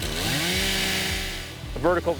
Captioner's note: chainsaw cutting into wood